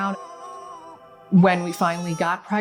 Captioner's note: baby crying